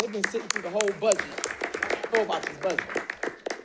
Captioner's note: audience applauding